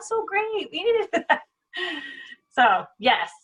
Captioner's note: laughs